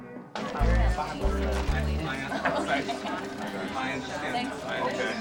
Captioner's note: workers chattering